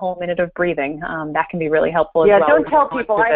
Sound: voiceover

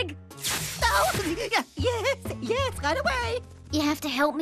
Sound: screaming

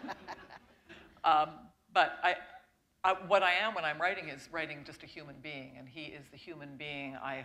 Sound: laughter

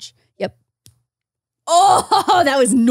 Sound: tablet snaps; laughs

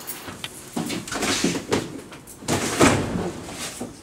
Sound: opens and slams drawer shut

